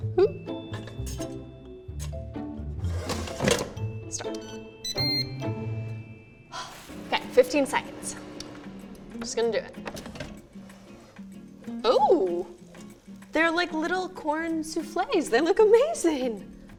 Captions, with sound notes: (lighthearted music) Start. (airfryer beeps) Okay, 15 seconds. Just gonna do it. Oh! They're like little corn souffles. They look amazing.